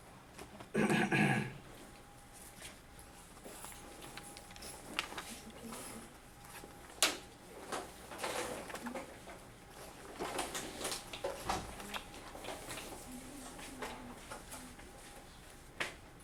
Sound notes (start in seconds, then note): 0.7 clears throat